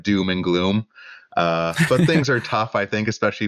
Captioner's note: laughter